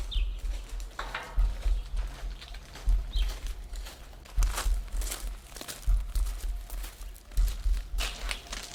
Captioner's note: footsteps on gravel